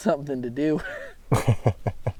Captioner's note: laughing